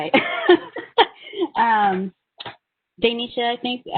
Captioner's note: laughing